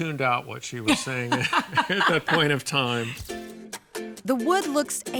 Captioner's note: both laughing